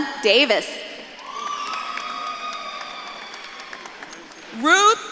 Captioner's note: audience claps and cheers